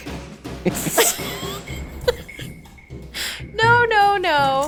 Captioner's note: laughs